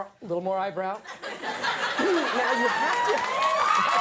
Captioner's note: audience laughs